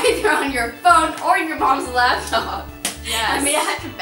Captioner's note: laughs